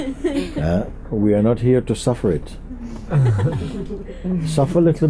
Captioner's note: laughter